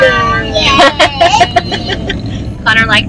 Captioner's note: laughs